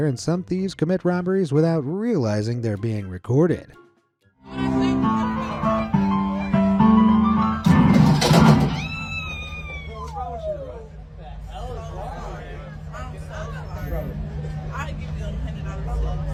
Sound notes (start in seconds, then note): 4.4 piano music; 8.7 screams